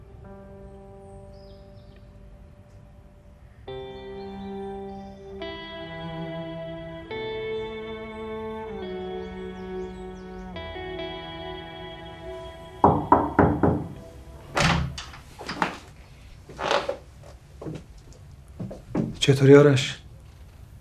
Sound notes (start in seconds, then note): 12.8 door knocking